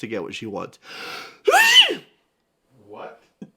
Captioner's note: alarmingly cute sneeze